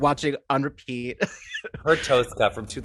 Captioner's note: laughing